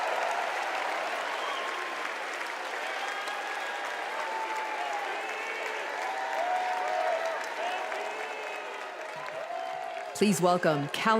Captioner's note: cheers and applause